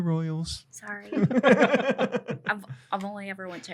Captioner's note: laughter